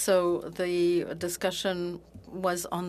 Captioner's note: speaking French